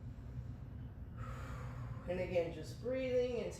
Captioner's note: sighs